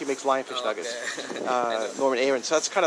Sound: laughs

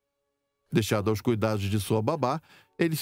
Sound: solemn music; voiceover

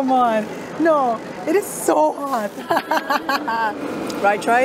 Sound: laughs

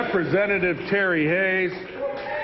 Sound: applause

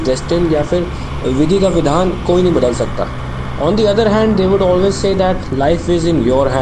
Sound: speaks in Hindi - not transcribed

